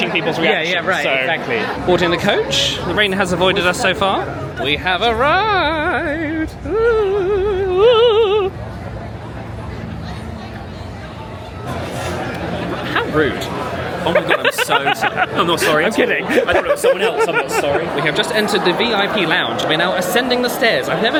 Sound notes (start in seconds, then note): 8.8 guests chattering; 14.0 laughing